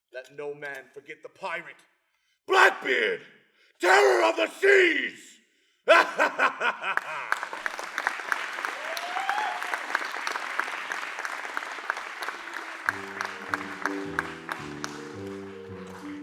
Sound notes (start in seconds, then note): 5.8 maniacal laugh; 7.5 applause; 7.5 cheering